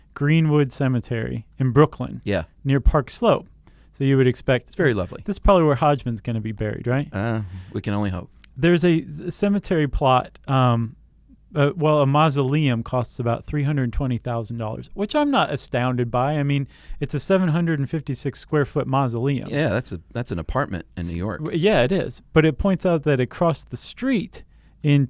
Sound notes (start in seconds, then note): 7.1 sighing